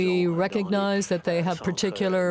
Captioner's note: speaking French